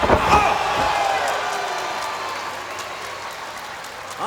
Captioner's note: crowd cheering